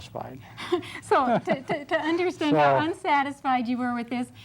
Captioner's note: laughs; laugh